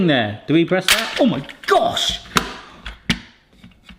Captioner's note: mould springs sharply